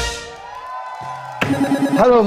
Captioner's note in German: Jubel